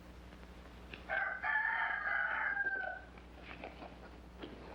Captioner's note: rooster crowing